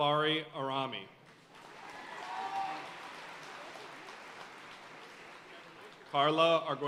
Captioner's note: audience cheering and applauding